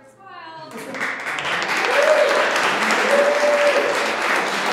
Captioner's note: applauding